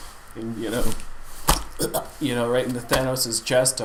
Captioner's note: chokes